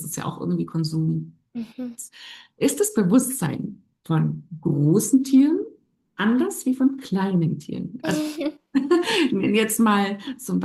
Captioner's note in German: gelächter